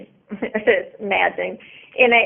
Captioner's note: chuckles